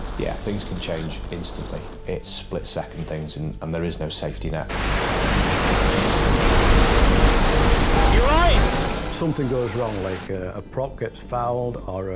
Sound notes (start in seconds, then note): 0.0 waves crash; 4.7 waves crash